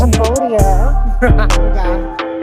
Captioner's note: laughing